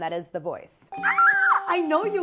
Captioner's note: squeals; dinging